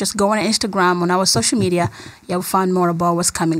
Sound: laughs

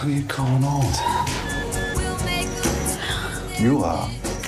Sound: monitor beeping

